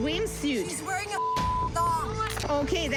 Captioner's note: beep